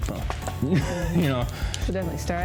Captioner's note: laughs